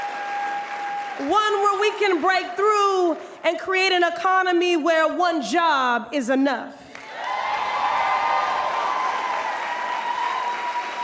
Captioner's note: applause